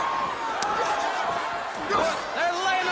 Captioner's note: crowd cheering